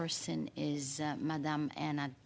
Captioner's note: speaking French